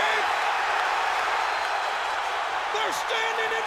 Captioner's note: audience cheering